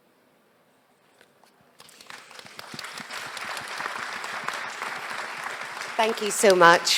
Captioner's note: applause